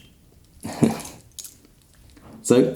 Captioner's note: laughs